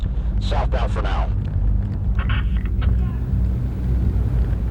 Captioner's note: officer On Radio